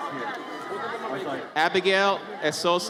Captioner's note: audience cheers